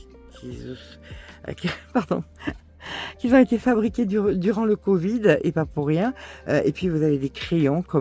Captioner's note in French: rires